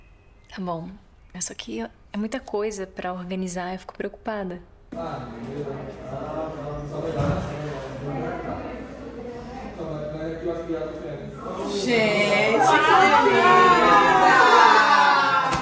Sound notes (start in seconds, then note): 4.9 indistinct chatter in the background